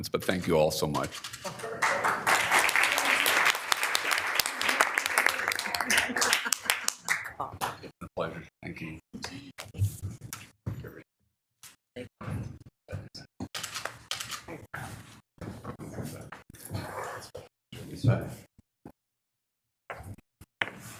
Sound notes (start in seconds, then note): 1.4 audience applauding